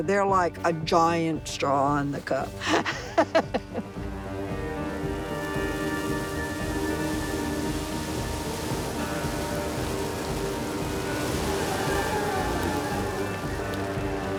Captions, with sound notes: They're like a giant straw in the cup. (laughs) (fire roars)